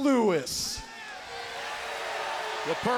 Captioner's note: crowd cheers